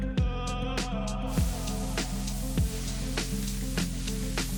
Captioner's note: ingredients sizzling